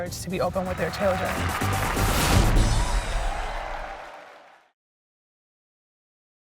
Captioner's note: applause